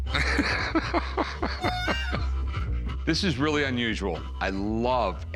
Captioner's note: laughing